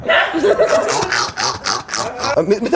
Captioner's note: laughter